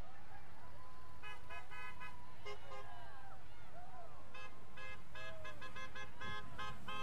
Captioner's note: vehicles honking; people cheering